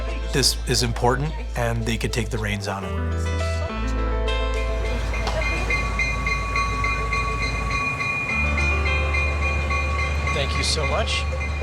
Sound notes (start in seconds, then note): 4.8 bell rings